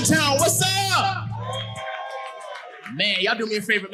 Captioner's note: audience cheering